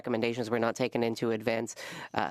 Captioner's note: speaking French